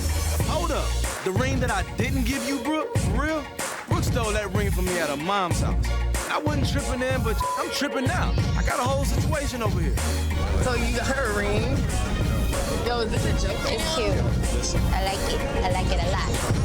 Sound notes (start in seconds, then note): 10.4 overlapping chatter